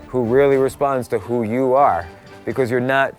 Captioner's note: none